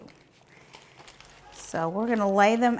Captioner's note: lettuce leaves rustling